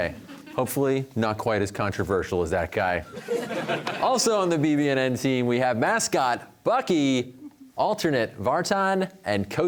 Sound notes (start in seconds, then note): 3.1 audience laughter